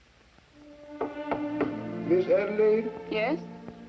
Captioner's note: knock on door